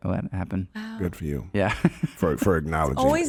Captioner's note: laughing